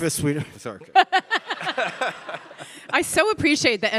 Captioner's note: all laughing